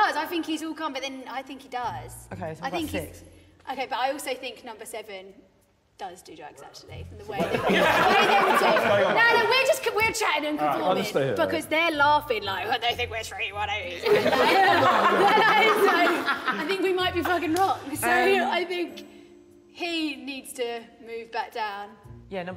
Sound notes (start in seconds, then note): 7.3 all laughing; 14.0 all laughing